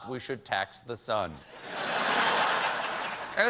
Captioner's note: laughter